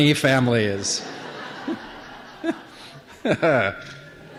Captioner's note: laughter